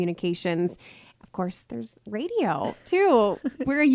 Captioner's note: laughing